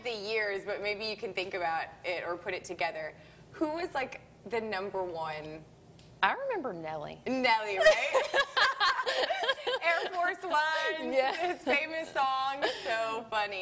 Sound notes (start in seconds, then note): 7.8 laughs